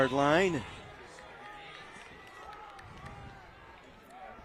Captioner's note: applause